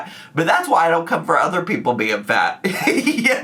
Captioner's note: laughs